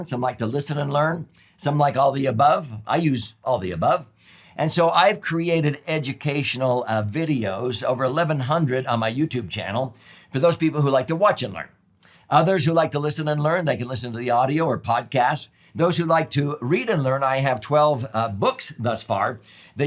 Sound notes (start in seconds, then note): none